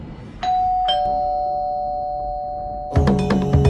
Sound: ringtone

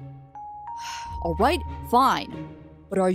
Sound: sigh

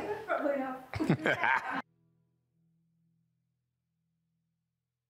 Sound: Chris laughing

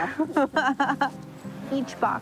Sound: laughs

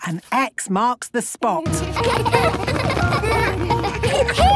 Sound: laughter

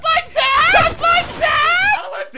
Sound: gun blasting

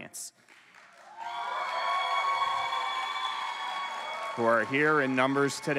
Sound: cheering

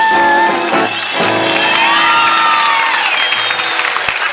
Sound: applause, loud cheers

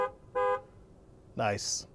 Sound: horn honking twice

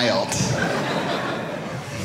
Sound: audience laughing

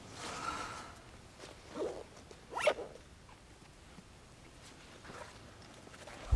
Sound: Nova sighs; zipper zips

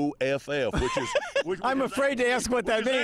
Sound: laughs

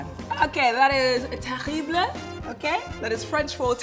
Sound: speaking in foreign language

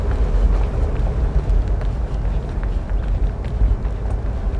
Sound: quiet pattering footsteps

